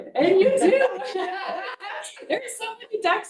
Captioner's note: board members laughing